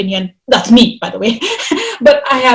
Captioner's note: chuckles